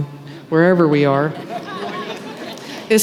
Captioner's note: laughter